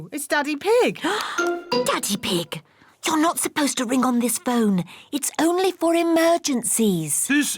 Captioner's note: gasps